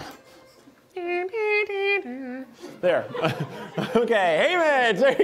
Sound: humming

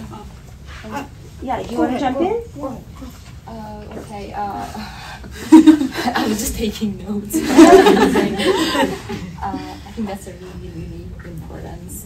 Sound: laughter

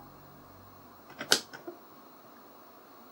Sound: CLICK of tape deck

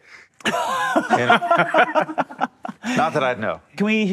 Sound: laughs

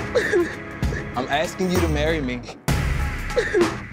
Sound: cries

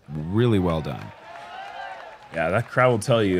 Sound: cheers

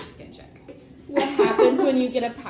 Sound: laughs

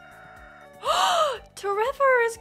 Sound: gasp

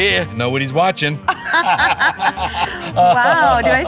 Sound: both laugh

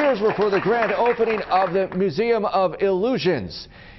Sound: applause

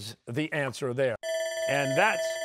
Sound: bell ringing

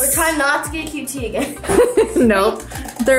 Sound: laughs

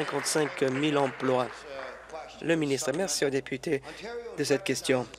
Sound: applause

